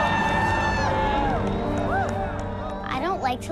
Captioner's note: applause